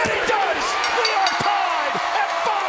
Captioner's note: bell rings